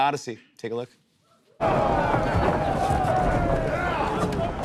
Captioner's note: men shouting